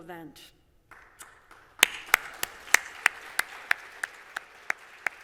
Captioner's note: applause